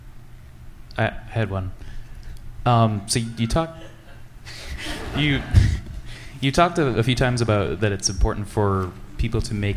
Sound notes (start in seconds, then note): 4.5 laughter